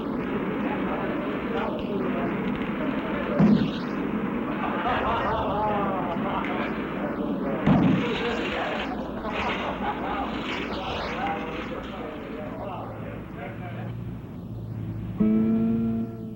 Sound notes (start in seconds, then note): 6.1 class laughing; 10.8 class talking in the background